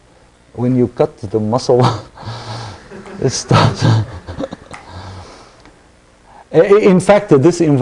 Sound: laughter

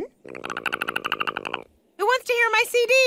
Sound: growls

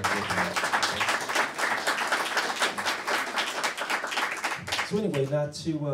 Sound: applause

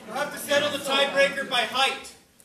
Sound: voiceover

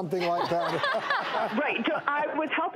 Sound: laughing

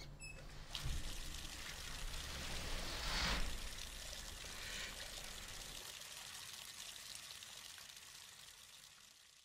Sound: a bathtub faucet turns on and slowly fades out

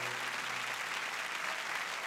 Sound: cheers and applause

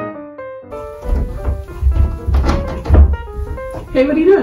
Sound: playful music; sound of walking down stairs

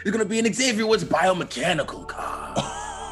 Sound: laugh

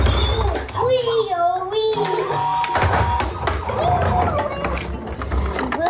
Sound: children imitate siren sounds

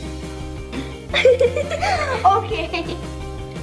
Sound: giggling

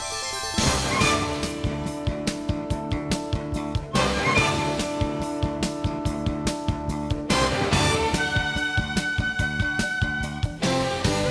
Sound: gavel

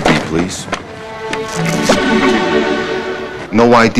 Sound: pop!

